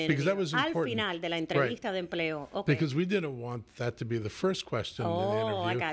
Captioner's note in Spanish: Hablando ingl\s